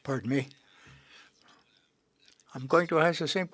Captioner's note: speaking French